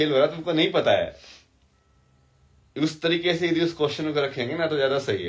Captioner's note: नाक से की जाने वाली आवाज़